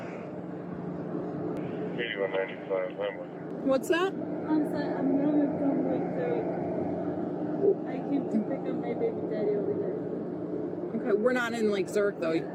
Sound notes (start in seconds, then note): 2.3 radio chatter